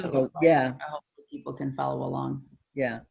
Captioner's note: laughs